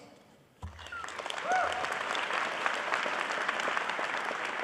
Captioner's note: applause